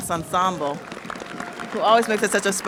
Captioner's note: audience cheers and applauds